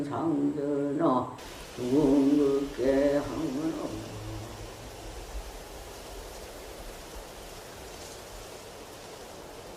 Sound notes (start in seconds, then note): 1.5 wind rustling